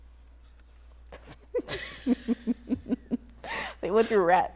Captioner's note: laughter